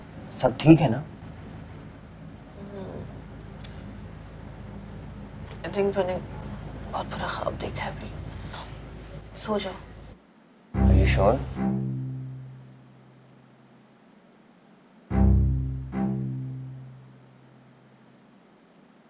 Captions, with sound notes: Everything alright? *moans* I think... I just had a dreadful nightmare right now. Go to sleep. Are you sure?